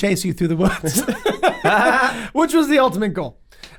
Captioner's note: all laugh